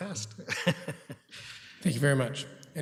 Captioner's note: laughing